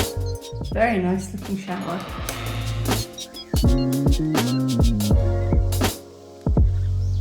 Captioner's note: door creeking; chill music